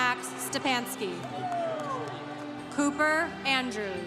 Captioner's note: congregation cheering